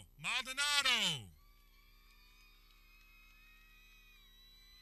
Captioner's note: people cheering